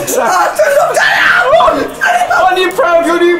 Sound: hysterical

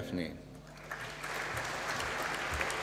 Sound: applause

